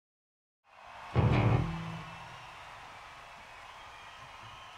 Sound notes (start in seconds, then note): 0.6 crowd cheering